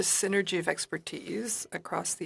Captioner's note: speaking FRENCH